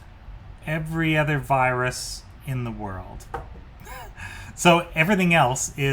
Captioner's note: chuckles